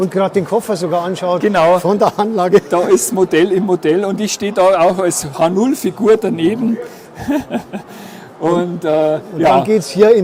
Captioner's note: laugh